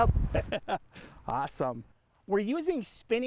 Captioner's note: laughes